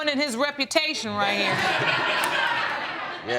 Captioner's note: audience laughing